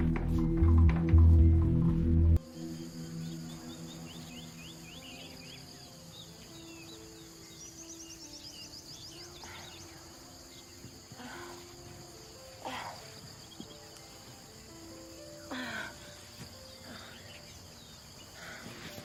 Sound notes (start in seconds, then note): 3.0 birdsds, insects chirping; 14.1 groans quietly